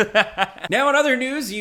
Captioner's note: laughing